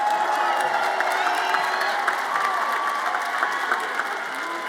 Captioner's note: everyone cheers and applauds